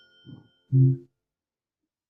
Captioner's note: alexa tone